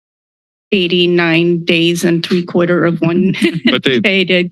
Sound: laugh

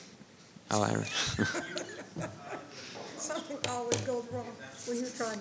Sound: laughing

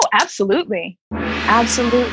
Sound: gong sound

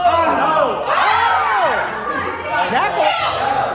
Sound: group yells

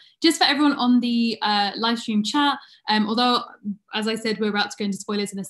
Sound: none

